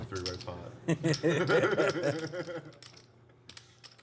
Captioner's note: laughter